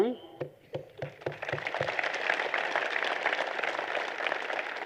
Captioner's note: applause